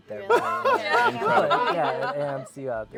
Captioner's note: laughter